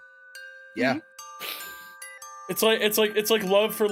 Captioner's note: sniffles